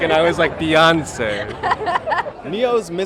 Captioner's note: laughter